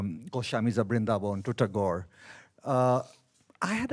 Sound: speaks in a foreign language

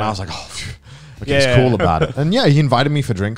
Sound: exhales

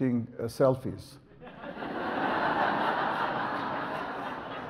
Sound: audience laughs

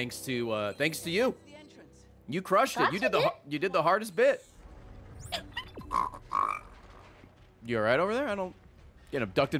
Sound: snorts

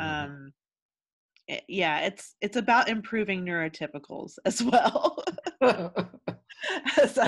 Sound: laughs

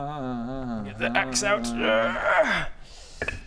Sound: grrrrrrrrgh

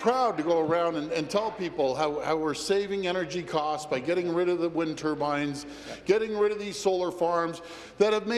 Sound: applause

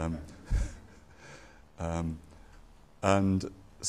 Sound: laughs

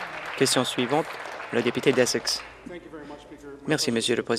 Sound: applause

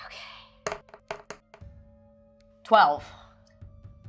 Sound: dice thudding

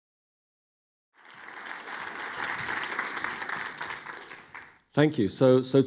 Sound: audience clapping

